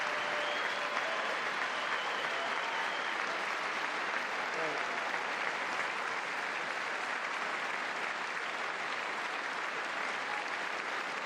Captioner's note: applause